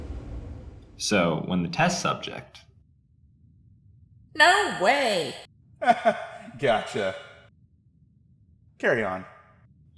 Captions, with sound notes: So when the test subject— No way! [Laughing] Gotcha! Carry on.